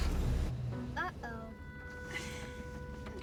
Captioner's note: sighs